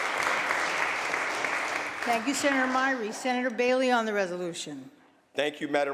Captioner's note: applause